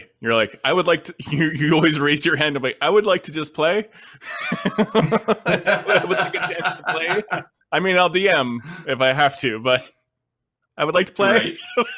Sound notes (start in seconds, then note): 4.2 both laughing